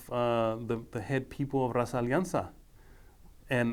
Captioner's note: speaking foreign language